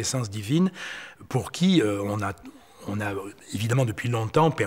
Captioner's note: French spoken audio